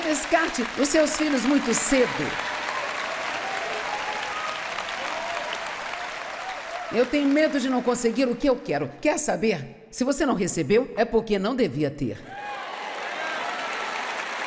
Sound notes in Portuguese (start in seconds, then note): 5.1 plateia aplaudindo; 12.3 plateia aplaudindo